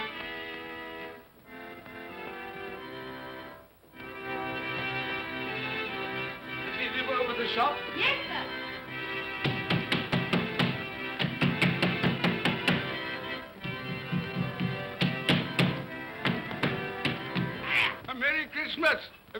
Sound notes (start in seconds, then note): 0.0 music plays faster; 9.4 banging on door; 17.5 poulter grunts